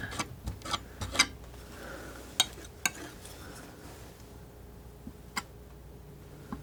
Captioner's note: scratching